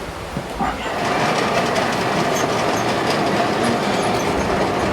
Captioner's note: machine vibrating